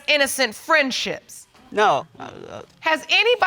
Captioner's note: stutters